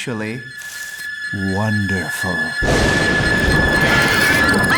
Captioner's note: thunderclap; screams